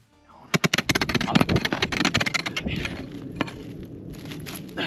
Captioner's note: pickax thudding